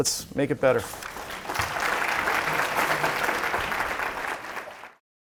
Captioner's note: audience applauding